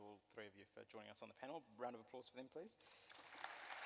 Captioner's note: audience applauds